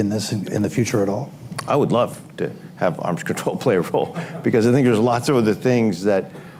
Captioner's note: laughter